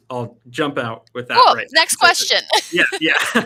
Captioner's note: laughing